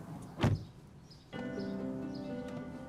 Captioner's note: car door closing; gentle music